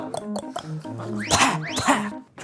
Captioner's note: spitting